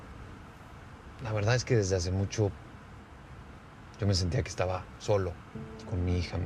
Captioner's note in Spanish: none